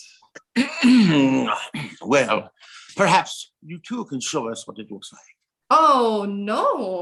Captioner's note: clearing his throat